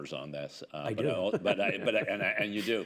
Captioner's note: laughs